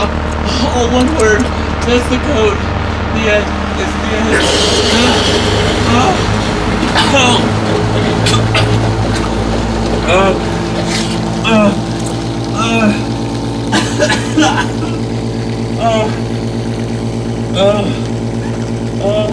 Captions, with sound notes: All one word, that's the code. (coughing and sputtering) (water draining)